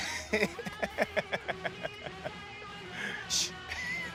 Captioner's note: laughing